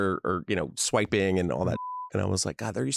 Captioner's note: beep